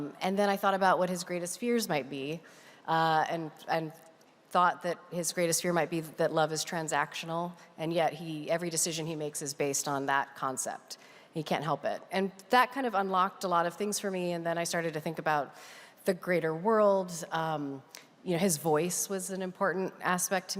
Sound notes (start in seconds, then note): none